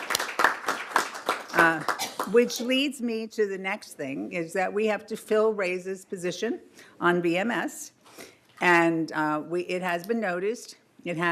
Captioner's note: applause